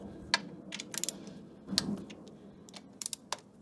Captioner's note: click